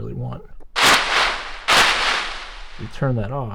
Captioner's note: pompom rustling